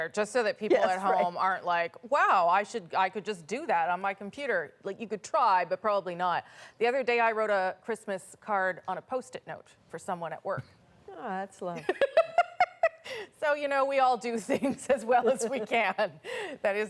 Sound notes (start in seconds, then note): 13.9 laughter